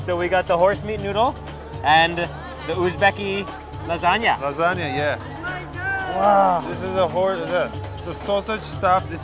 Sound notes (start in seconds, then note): 0.0 speaking foreign language; 5.7 crowd chattering